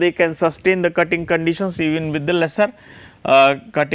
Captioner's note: friction